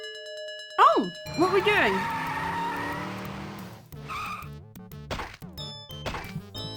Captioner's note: tyres screeching; thumping sound